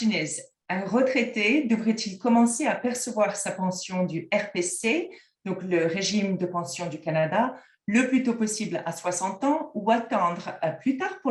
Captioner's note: french